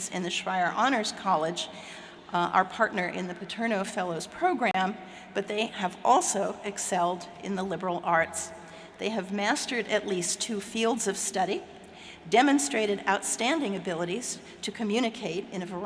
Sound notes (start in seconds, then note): none